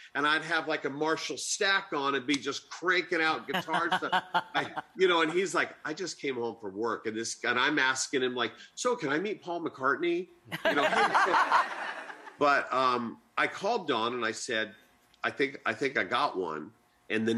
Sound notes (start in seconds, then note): 3.5 laughter; 10.5 laughter